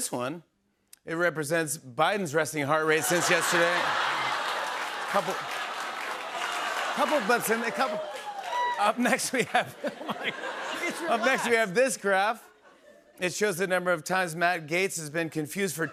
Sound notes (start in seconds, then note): 3.0 laughter; 9.0 laughter